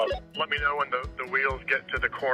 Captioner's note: walkie talkie beeping